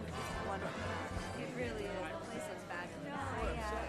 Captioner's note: indistinct chatter